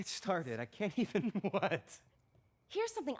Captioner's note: chuckles